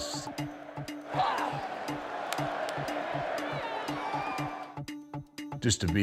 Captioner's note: crowd cheering; upbeat music